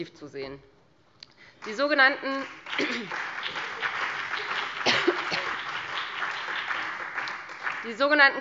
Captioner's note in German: Beifall Freie Demokraten und vereinzelt CDU, BÜNDNIS 90/DIE GRÜNEN und DIE LINKE